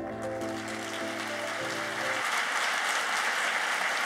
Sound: applauding

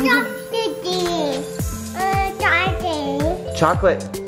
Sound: baby talk

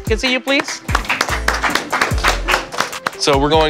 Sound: students clapping

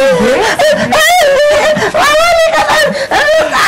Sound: Emman shrieks

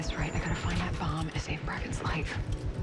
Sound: doors open

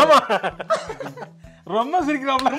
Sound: sneeze laughter

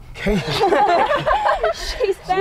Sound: happy Laughter

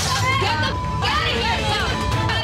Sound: beep

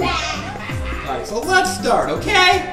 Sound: voiceover

